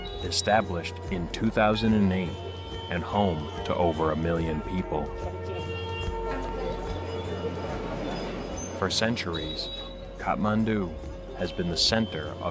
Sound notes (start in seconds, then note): 5.5 gentle upbeat music; 5.5 horns honking